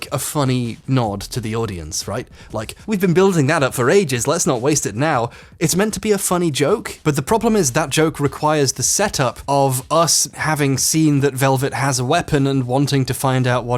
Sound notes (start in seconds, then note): none